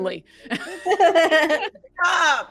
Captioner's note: all laughing